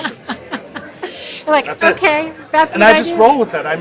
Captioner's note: laughs